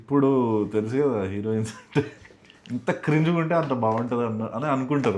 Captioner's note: laughs